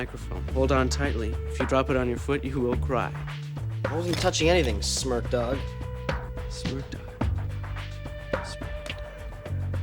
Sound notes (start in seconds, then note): 8.2 whispers